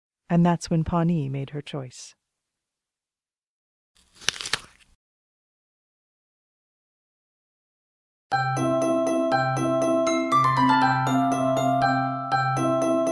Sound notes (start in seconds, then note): 4.0 crunch